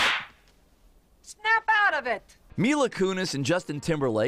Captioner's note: slap